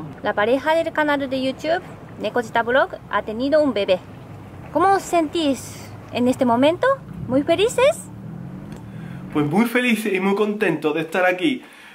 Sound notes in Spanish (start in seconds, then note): 8.8 con acento sevillano